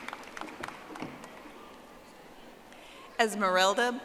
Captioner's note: audience applauding